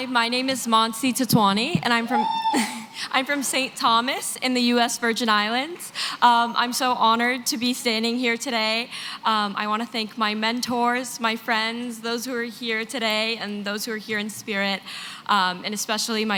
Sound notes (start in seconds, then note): 2.0 laughs; 2.1 cheer